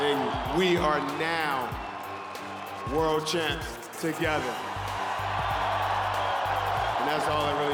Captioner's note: cheering and Applause